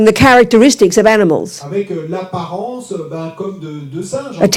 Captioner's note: speaking in French